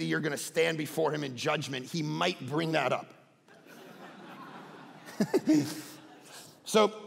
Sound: congregation laughing

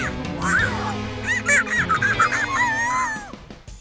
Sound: screaming

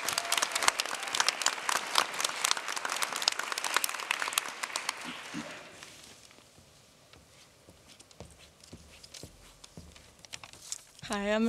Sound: applause

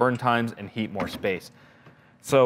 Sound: door softly shutting

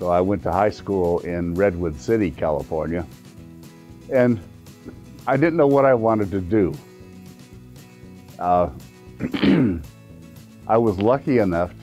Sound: clears throat

